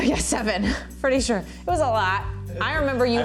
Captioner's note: laughs